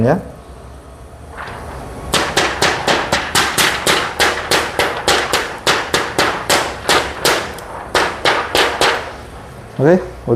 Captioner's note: PET film noise